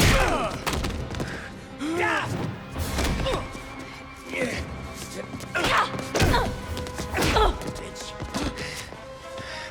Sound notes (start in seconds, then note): 0.0 blows thudding; 0.1 tense music; 2.4 Gammon and Dalton grunting; 5.8 Kelly grunts; 7.4 punch thuds